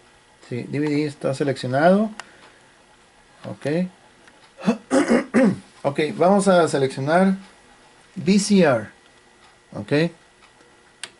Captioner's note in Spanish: carraspeo